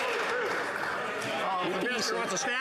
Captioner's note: applause